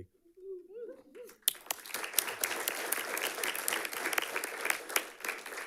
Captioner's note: audience clapping and cheering